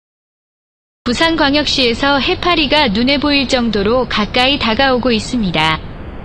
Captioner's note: in Korean